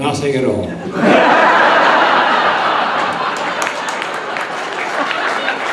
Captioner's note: audience laughing; audience clapping